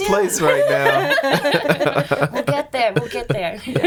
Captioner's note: laughing